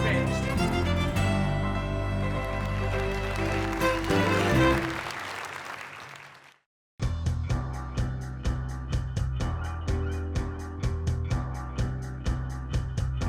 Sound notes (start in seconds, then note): 2.3 applause